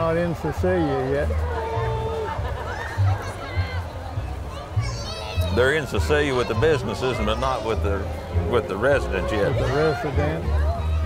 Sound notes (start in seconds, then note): 2.4 revving and chattering continue; 5.4 upbeat music